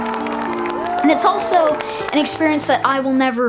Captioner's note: people cheering